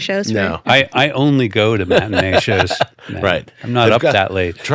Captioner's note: laughing